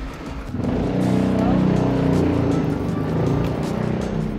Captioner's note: car engines roaring